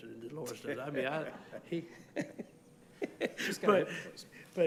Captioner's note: laughs